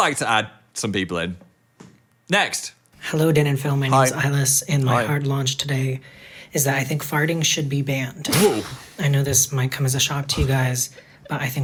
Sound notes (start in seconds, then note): 9.2 laughs